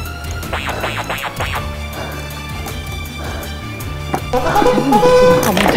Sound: click, click, click, click

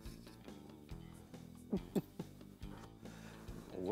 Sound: chuckling

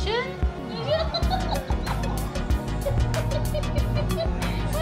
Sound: laughing

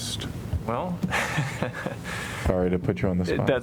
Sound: laughter

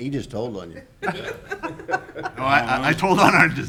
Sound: laughing

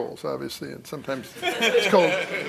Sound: laughter

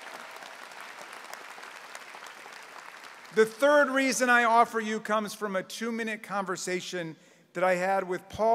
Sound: applause

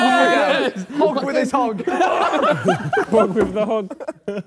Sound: Sidemen laugh

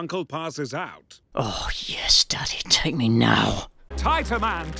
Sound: whispering surprisingly creepily

